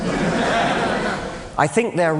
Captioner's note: laughter